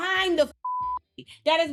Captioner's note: beep